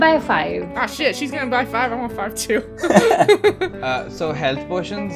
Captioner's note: laughter